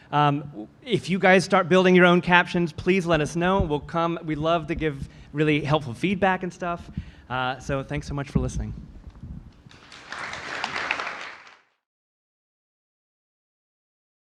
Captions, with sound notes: If you guys start building your own captions, please let us know we'll come we love to give really helpful feedback and stuff. So thanks so much for listening. (audience applause)